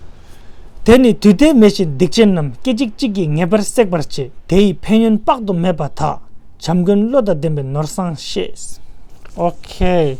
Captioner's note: tibetan